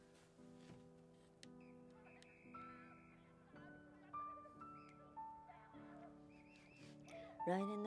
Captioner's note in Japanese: テレビの音声